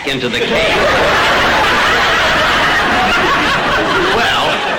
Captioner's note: audience laughter